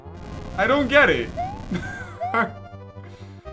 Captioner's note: laughs